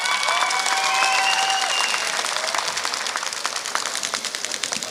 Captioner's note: applause